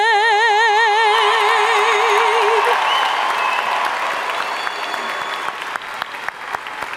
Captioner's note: audience cheering and applauding